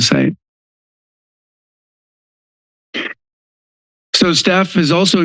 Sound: silence

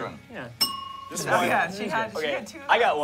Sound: bell dings

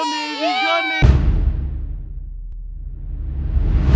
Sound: bang

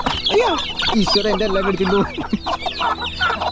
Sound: click and squawks; laughing

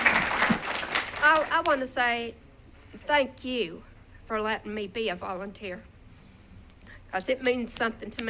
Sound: applause

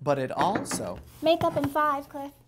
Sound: knock

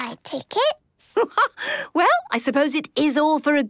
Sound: laughs

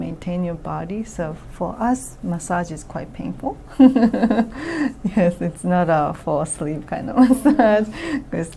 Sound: laughs

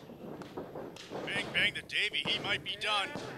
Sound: referee slapping

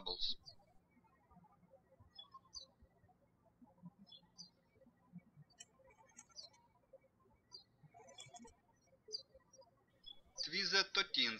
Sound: birds chirping

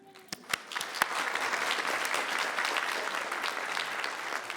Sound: people clapping

